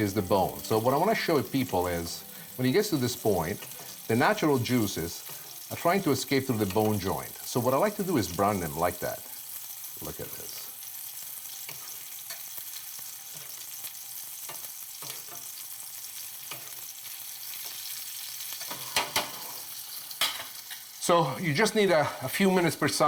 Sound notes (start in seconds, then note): 10.4 oil sizzling